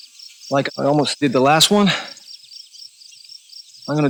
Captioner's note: footsteps crunching